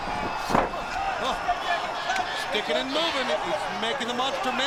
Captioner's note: crowd cheering